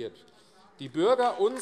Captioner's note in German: Beifall AfD